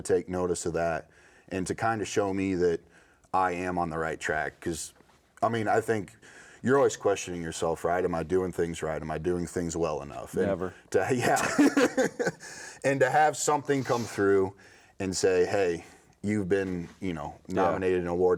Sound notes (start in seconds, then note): 11.2 laughing